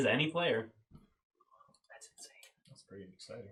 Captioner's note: whispering